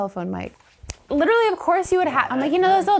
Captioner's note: finger snap